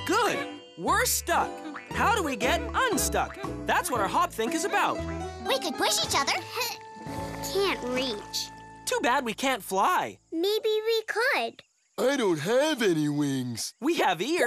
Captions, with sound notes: GOOD! WE'RE STUCK! HOW DO WE GET UNSTUCK? THAT'S WHAT OUR HOP-THINK IS ABOUT. WE COULD PUSH EACH OTHER. (STRAINS) CAN'T REACH. TOO BAD WE CAN'T FLY. MAYBE WE COULD. I DON'T HAVE ANY WINGS.